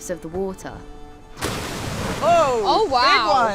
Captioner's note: splash